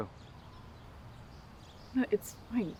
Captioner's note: birds chirping